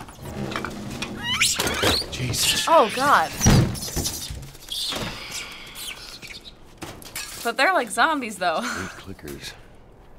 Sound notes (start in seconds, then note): 0.0 door creaks; 1.2 monkey squeaks; 3.4 monkeys chatter